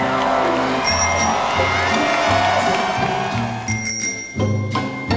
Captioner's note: bells chiming